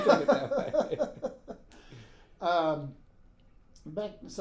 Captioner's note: laughing